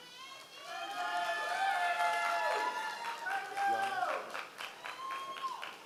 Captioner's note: members of the audience cheering